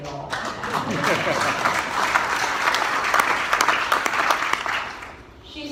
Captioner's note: applause